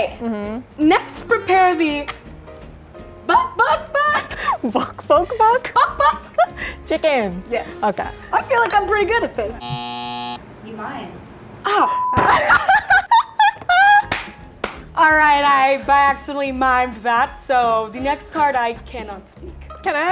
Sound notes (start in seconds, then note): 3.4 laughing; 9.6 buzzer; 11.9 beeping; 14.0 laughing; 14.0 clapping